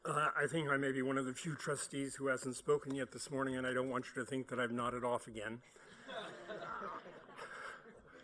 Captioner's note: laughter